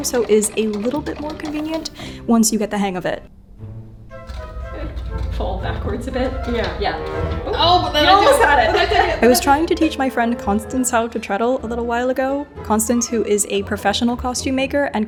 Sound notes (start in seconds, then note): 4.2 machine clicks; 6.5 laughs